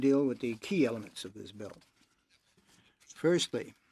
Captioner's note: speaking French